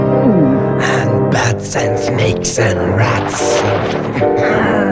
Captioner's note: laughs